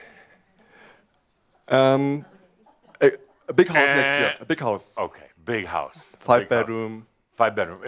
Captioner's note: buzzing like a timer